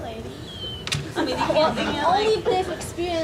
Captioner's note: laughing